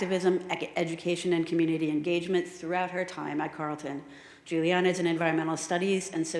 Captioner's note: none